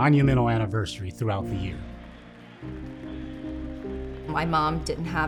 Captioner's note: crowd cheering